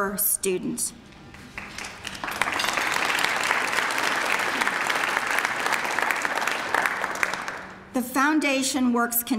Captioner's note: applause